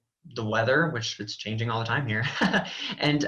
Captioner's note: laughs